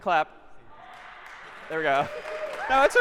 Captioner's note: applause